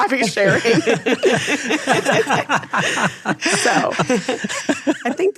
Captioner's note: all laughing